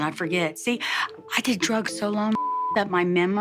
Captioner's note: beep